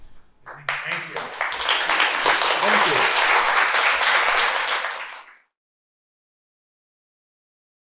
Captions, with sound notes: Thank you. [APPLAUSE] Thank you. [APPLAUSE]